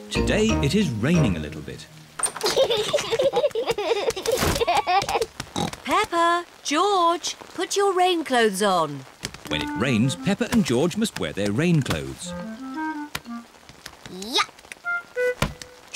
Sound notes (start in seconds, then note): 2.4 both giggling; 5.5 oinks